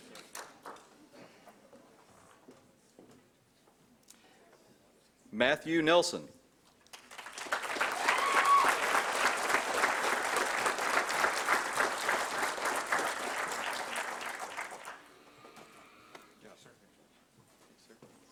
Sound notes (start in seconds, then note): 6.9 applause